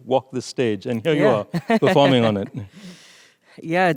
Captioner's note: laughing